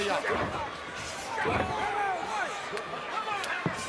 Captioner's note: foot thudding